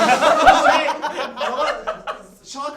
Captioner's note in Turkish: gülüşmeler